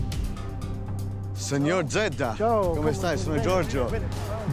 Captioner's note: both speaking Italian